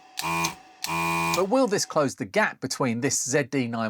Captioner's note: Hacker Beeps